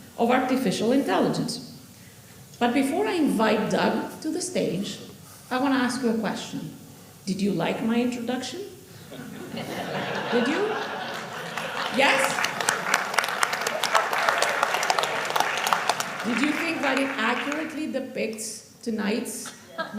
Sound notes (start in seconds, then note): 9.2 audience laughing; 10.6 audience applauding